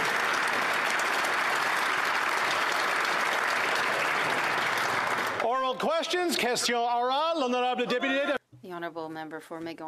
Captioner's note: applause